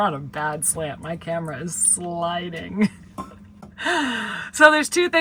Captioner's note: chuckles